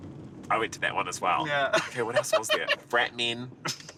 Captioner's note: laughs